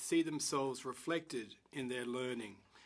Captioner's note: speaking in french